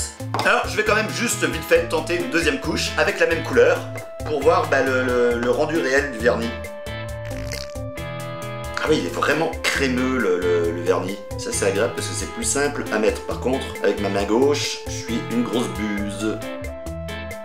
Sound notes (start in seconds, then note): 7.2 fart